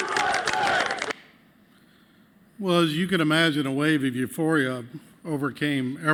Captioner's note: cheers and applause